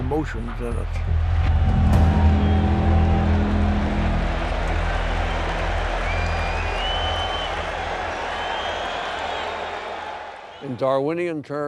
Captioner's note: cheering